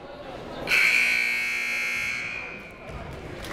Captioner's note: buzzer